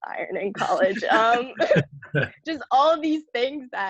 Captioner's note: laughs